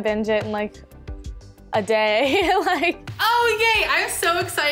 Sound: laughs

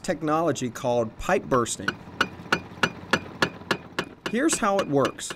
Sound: sounds of construction

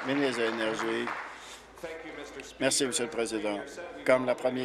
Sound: applause

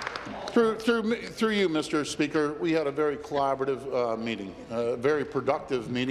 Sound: applause

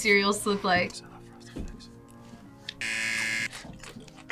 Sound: whispers; buzzer rings

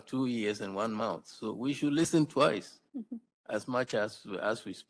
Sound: chuckles

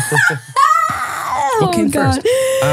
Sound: laughs

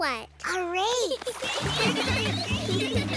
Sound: gibble goose girls giggling

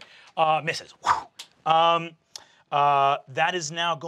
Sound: whooshes

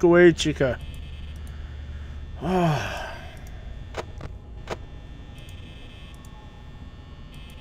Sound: sighs in irritation

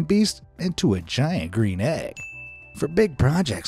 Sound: chiming sound effect

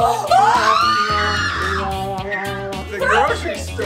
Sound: cheering; yelling

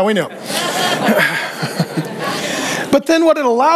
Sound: congregation laughing

